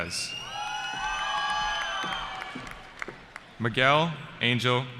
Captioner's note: cheering